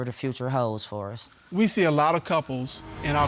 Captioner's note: none